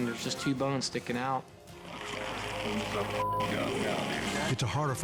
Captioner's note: beep